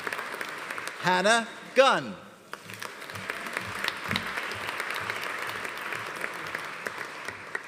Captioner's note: audience applauding